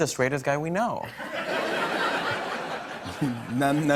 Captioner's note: laughter